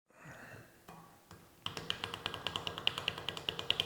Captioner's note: tapping on the machine